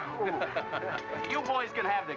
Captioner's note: George chuckles